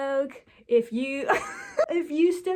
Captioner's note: wheeze